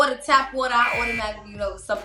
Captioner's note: alarm buzzes